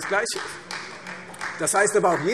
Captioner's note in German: Beifall Freie Demokraten